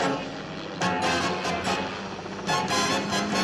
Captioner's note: helicopter noise; car engine